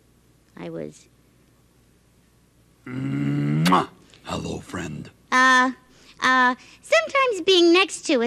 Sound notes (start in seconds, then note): 3.5 kissing